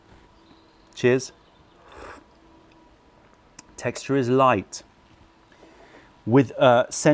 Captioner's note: sips tea